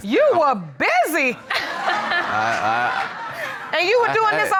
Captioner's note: audience laughing